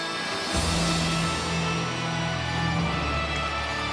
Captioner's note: audience cheers